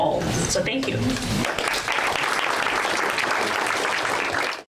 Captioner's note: audience applause